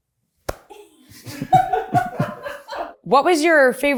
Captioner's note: everyone in the background laughs happily